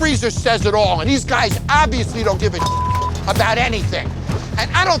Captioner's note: beep